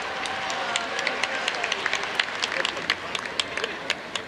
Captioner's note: audience applauds